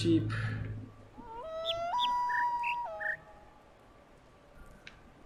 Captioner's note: bird chirps five notes; coyote howls ˩˧˥˥ ˧